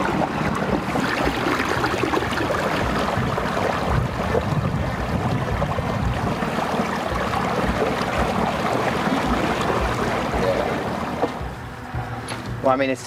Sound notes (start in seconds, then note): 0.0 motor rumbling; 0.0 suspenseful music; 1.3 water trickling; 6.0 suspenseful music